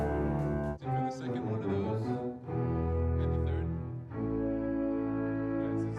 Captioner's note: indistinct chatter